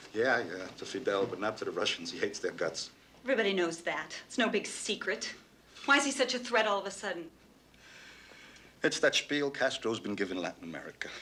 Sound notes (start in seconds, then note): none